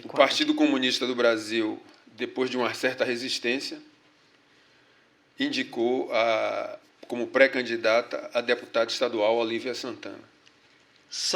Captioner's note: speaking portuguese